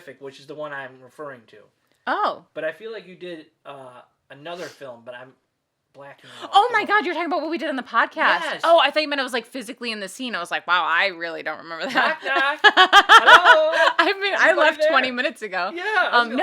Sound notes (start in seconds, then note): 11.8 laughing